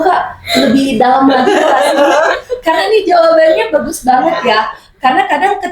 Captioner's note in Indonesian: tertawa